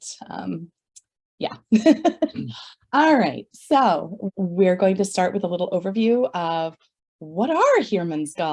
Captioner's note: laughs